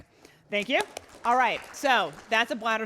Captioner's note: applauding